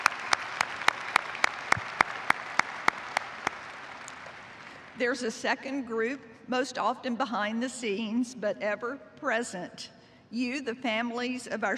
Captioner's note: cheers and applause